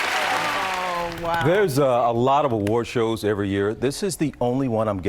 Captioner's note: applause